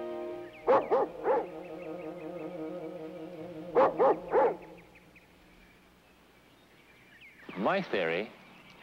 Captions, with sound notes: (dog barking) - My theory has been to look at what has